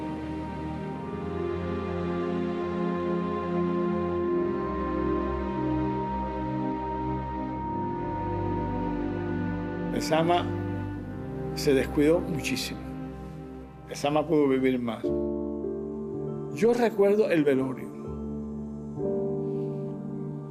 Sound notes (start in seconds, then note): 10.3 speaking Spanish